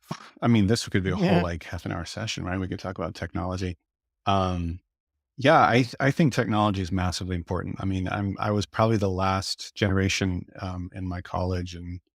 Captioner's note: laughs